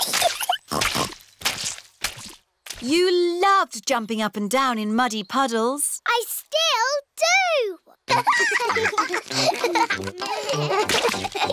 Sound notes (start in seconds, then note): 0.4 giggles and snorts; 8.1 both giggling